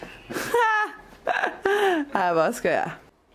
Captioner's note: laughing